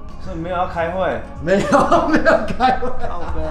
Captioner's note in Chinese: 奸笑